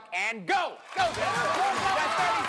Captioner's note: cheering